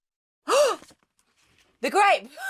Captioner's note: gasps